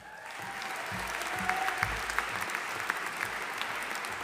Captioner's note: audience applauding